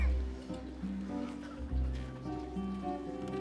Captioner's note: crowd murmuring